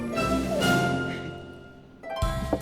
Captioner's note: squeaks; knocks